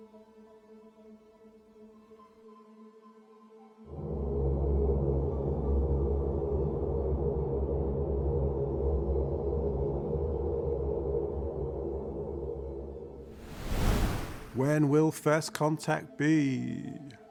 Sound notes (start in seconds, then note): 3.9 ominous music; 13.3 wind whooshing